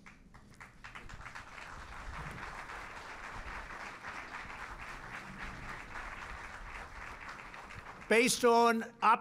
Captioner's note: applause